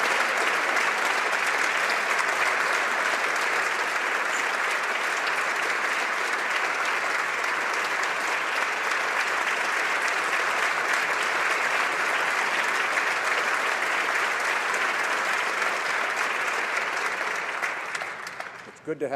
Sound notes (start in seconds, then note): 3.0 applause